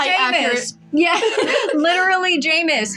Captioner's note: laugh; chuckle